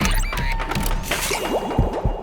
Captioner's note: blended sound effects; radio starts up; bubbling